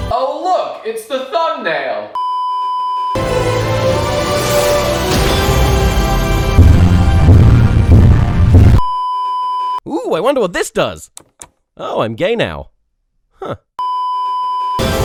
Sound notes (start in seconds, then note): 2.2 beeeeeeeeeeeep; 8.7 beeeeeeeeeeeep; 11.1 click; 13.8 beeeeeeeeeeeep